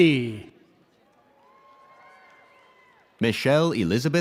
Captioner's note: audience cheers